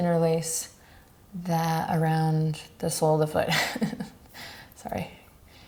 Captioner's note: laughs